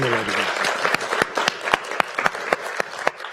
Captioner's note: applauding